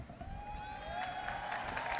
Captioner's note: applause